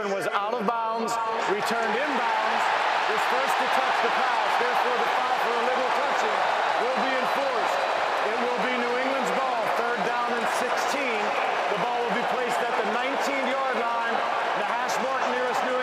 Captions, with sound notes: 87 was out of bounds. Returned inbounds. [cheering] He's first to touch the pass. Therefore, the foul for illegal touching will be enforced. It will be New England's ball. Third down and 16. The ball will be placed at the 19-yard line, the hash mark